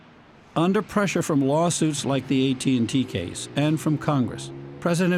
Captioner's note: voice-over